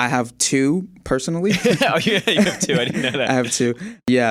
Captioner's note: laughing